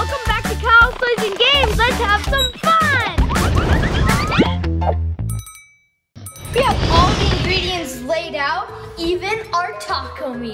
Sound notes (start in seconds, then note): 0.0 upbeat music; 5.2 bell ringing